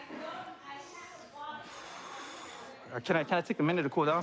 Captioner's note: exhales